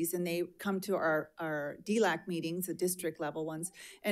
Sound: none

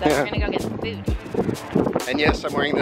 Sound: chuckles

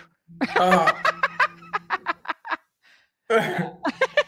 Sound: laughing

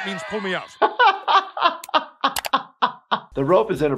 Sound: laughing

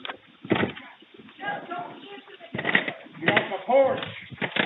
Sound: banging on door

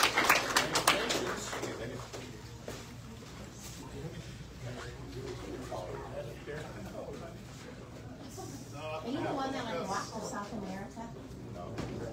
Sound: audience cheers and applauds; indistinct chatter

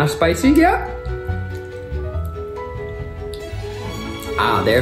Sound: chewing

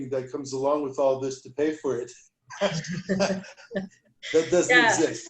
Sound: laughter

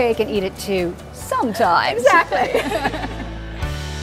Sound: both laughing; light music

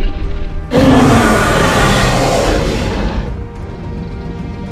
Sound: roars

